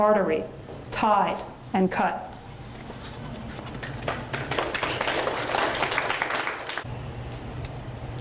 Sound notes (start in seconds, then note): 3.8 audience applauds